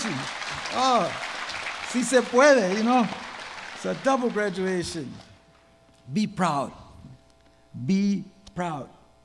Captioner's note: applause